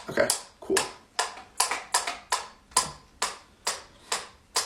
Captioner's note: metronome clacking